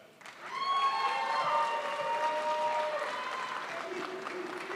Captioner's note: crowd applauds